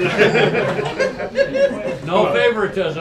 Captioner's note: laughter